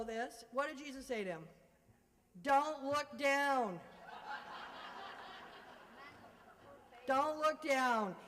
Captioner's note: laughter